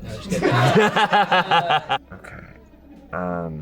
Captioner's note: audience laughing